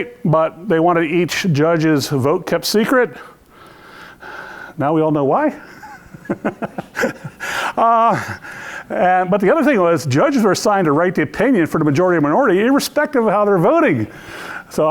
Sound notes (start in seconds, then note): 5.7 lecture laughs